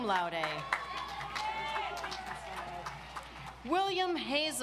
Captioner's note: audience applauds